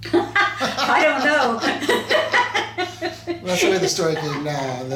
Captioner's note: laughs